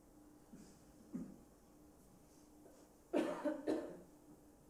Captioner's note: silence